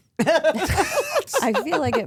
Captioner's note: Stephanie laughing